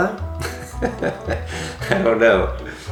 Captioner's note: laughing